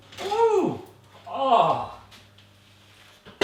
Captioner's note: groans